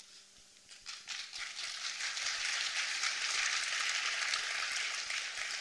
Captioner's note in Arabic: تصفيق